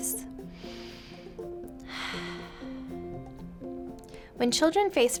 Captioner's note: inhaling and exhaling